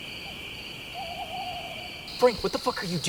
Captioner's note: crickets chirping; owl hooting